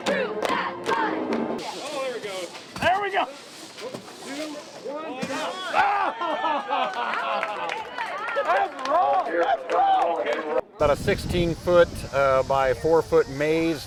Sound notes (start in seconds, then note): 0.0 cheerleaders cheering; 1.6 sweeping sounds